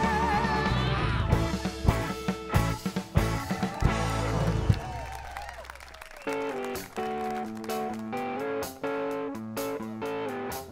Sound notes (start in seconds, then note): 3.4 applause